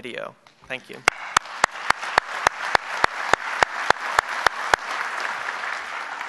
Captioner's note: applause